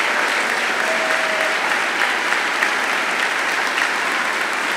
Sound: audience applauds

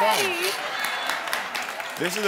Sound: audience applauds

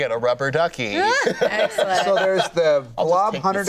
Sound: laughs

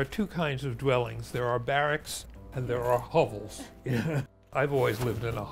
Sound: chuckles

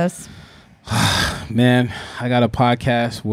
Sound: sighs

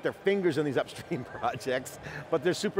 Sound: laughs

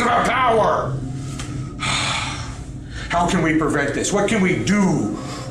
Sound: sighs

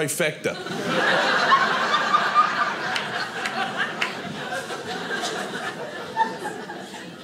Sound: audience laughing

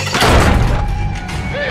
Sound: smash

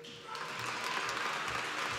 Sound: applause

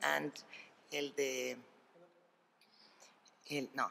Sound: speaking spanish

